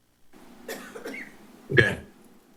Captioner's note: coughs